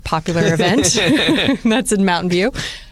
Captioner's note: laughter